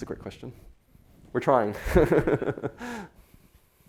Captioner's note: laughs